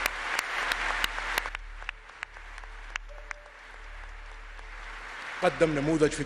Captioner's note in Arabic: تصفيق